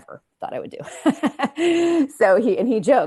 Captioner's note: chuckles